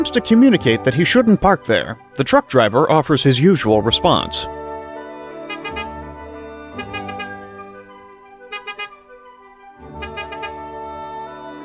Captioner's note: honk Honk